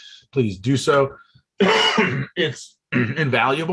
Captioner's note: coughs